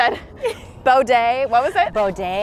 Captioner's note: laughs softly